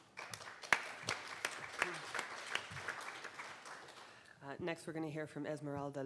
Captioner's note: audience applauding